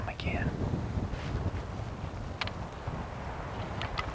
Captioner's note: wind whooshing